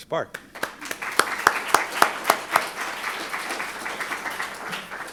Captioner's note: applause